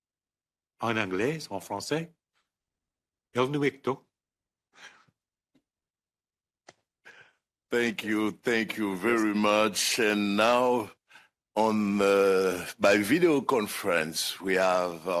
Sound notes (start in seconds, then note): 10.2 speaking French